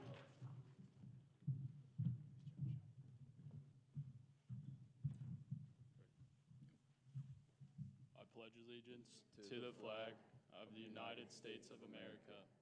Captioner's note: applause